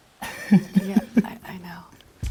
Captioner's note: laughing